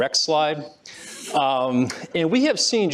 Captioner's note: laughter